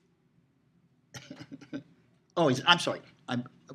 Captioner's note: chuckling